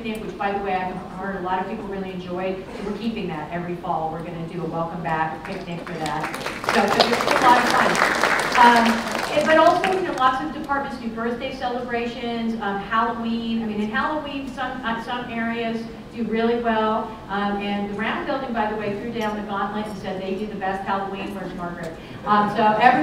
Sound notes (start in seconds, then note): 5.4 applause